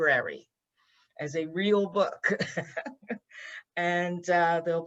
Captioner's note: laughs